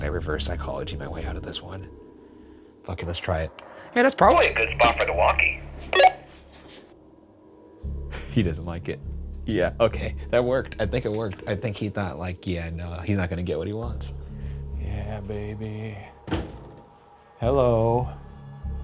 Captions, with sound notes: How could I reverse psychology my way out of this one. Okay, let's try it. Yeah, that's probably a good spot for the walkie. (walkie beeps) He doesn't like it. Yeah, okay. That worked. I think it worked. I think he thought like, yeah, no, he's not gonna get what he wants. - Yeah, baby. Hello.